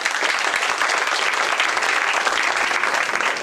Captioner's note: applause